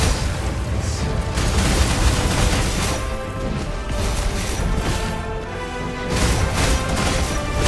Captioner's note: dramatic music; weapons clanging